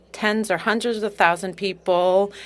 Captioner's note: speaking French